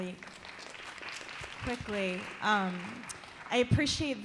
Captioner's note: applause